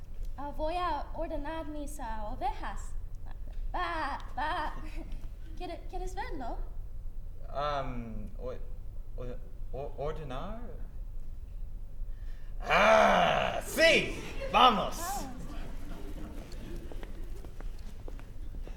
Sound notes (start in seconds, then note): 1.8 Spanish